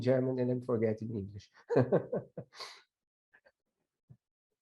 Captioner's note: laughing